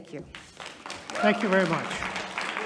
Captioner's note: audience applauding